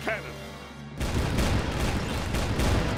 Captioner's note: canon firing